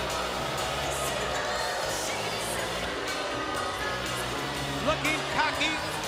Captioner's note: crowd chatter